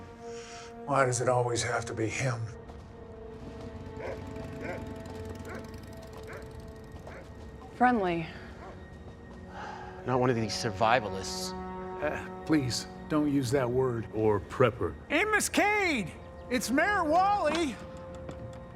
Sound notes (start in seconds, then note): 3.9 dog barking